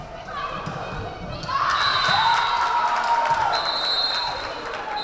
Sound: whistle blaring; crowd cheering; whistle blaring

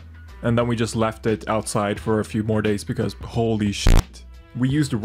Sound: bass boosted sound

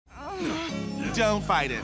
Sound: groaning

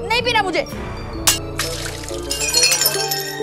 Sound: glass shattering

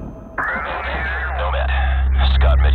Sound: gunshot; radio static

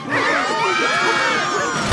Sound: screaming

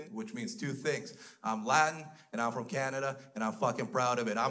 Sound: none

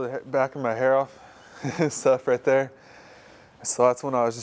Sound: laughs

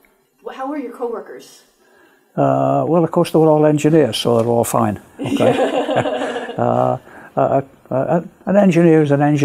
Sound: laughter

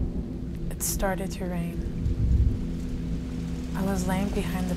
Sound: rain falling

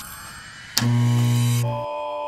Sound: click

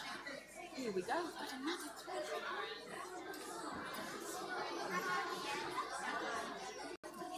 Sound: speaking faintly

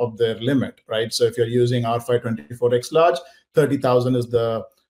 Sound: audio distorting

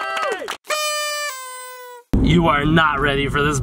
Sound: all cheering; horn blaring

